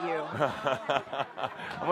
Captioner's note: laughter